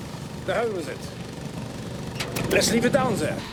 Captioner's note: clicks off compressor